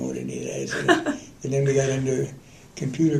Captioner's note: laughter